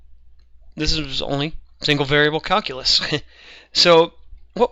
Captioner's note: laughs